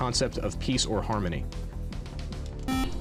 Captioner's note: beep